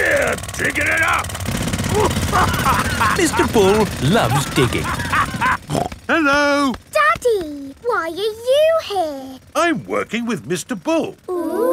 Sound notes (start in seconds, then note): 1.7 laughing